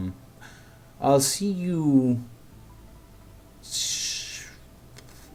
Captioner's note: thinking noise